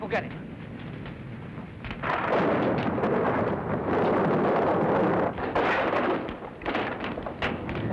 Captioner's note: thunder crashing; boards crashing; fire crackling